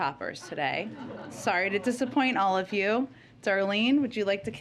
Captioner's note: laughter